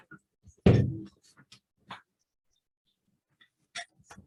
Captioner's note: table slamming